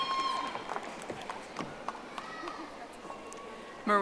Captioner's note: audience applauding